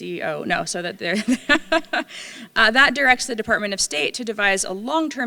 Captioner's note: laughs